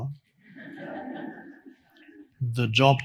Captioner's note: audience laughing